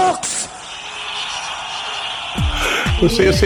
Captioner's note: crowd cheers